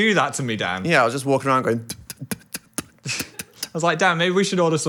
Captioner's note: spitting